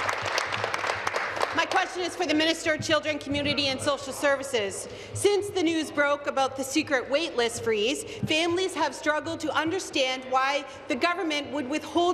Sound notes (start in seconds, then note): 1.8 applause